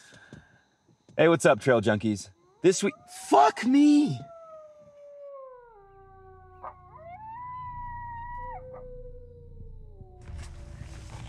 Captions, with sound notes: Hey, what's up, trail junkies? This week-- [coyote howls] Fuck me! [coyote continues howling, another barks]